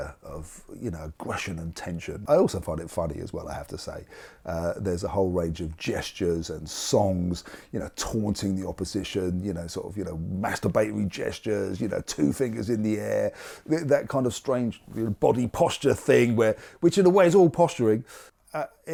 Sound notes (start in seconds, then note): none